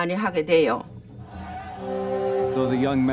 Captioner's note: ominous music; people shouting